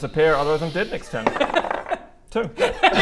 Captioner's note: sadistic DM laughter